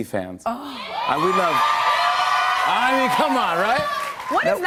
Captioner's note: cheers and applause